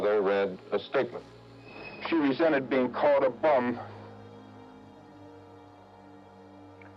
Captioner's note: voice breaking